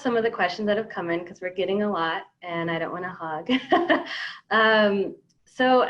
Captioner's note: laughs